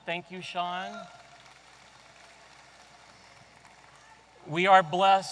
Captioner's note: audience applauding